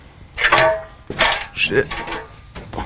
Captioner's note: metal clatters